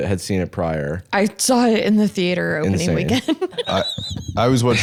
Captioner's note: laughs